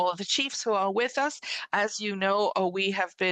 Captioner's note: speaking French